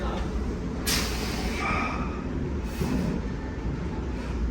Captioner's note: gym-goers chatters; exhales